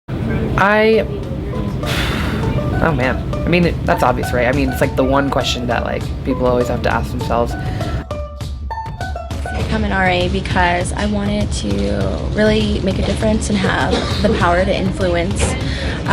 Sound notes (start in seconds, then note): 1.7 exhales